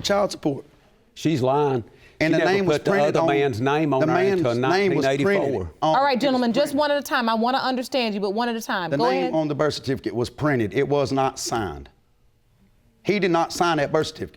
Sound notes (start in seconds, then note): none